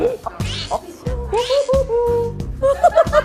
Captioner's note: whoo, hoo, hoo